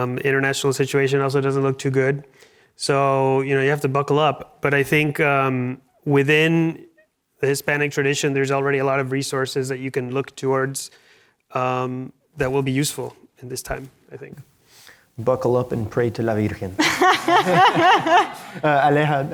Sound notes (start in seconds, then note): 16.5 speaks Spanish; 16.8 laughs